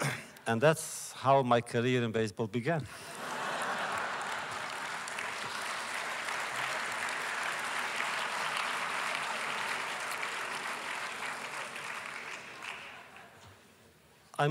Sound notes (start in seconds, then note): 2.9 laughter; 3.2 applause